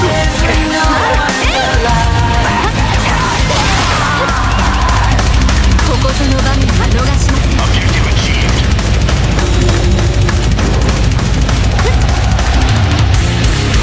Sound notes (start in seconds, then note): 2.8 fatal scream